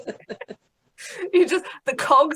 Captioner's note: both laughs